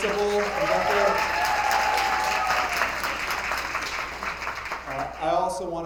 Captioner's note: attendees applauding